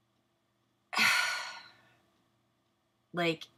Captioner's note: sigh